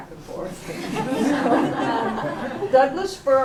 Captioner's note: laughter